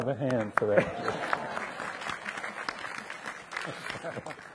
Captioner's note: audience applauding